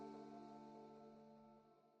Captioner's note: silence